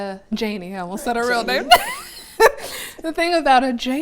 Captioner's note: laughs